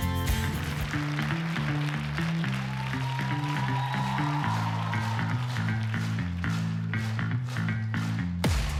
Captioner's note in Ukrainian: оплески